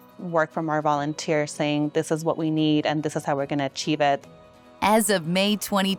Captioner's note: speaking in Spanish